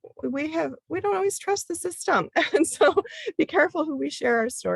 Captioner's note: chuckles